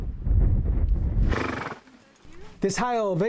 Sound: horse snorts

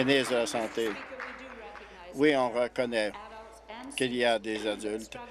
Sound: applause

